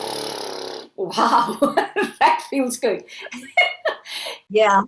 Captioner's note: laughs